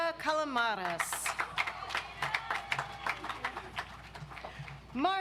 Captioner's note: audience applauds